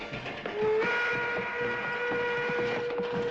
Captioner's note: train horn blaring